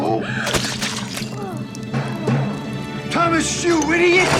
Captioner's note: food splattering